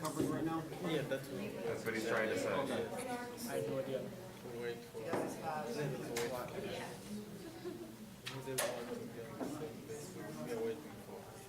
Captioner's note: students discussing